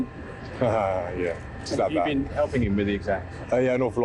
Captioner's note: laughs